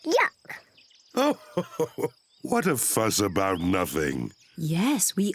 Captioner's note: laughs